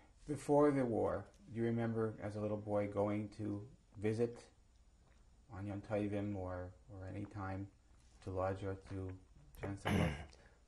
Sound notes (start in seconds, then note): 4.7 non-english